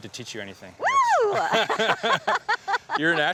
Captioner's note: laughs